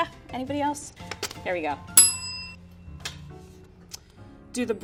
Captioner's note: bell rings